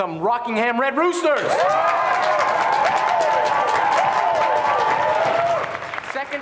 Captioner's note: cheers